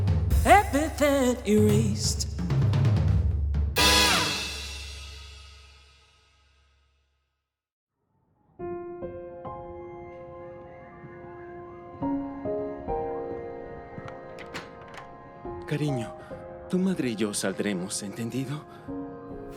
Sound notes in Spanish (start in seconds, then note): 10.7 Sonidos de niños jugando a lo lejos